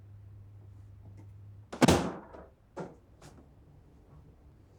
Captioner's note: door closes